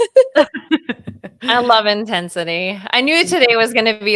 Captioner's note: all laughing